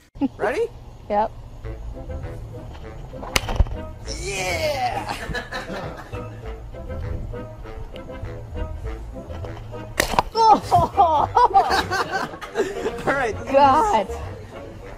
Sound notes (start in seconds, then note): 10.4 disgusted laughter; 10.4 delighted laughter